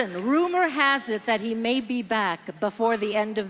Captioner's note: speaking French